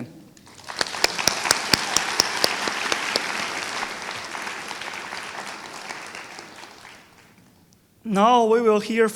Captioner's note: applause